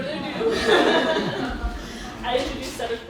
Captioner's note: laughing